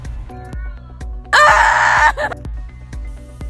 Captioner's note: upbeat music; yelling; upbeat music